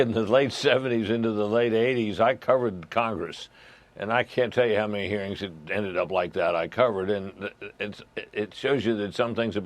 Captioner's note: chuckling